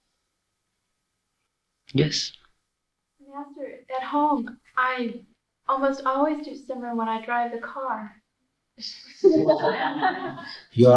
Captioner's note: laughter